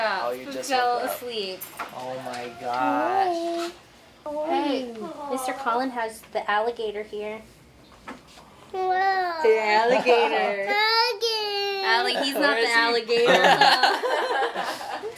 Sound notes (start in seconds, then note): 8.7 baby coos; 13.0 people laugh